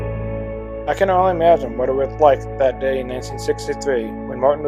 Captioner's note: voiceover